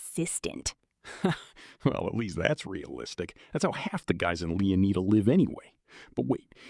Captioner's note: laughs